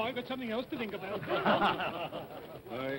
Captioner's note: all chuckle